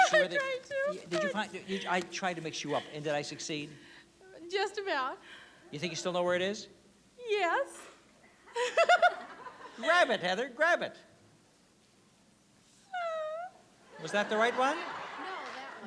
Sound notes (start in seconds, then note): 8.5 laughs